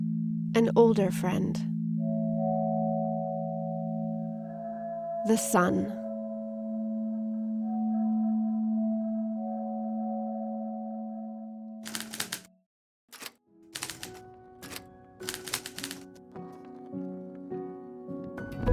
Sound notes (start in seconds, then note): 11.8 typewriter clicking